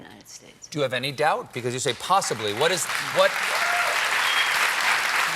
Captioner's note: cheers and applause